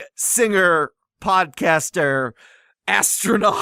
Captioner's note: laughs